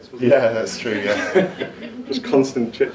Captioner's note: audience laughs